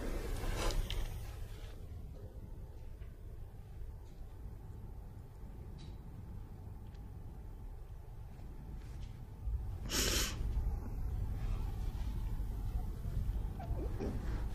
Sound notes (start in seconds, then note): 9.9 crying